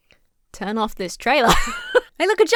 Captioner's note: laughs